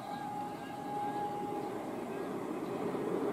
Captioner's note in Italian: fischio treno regionale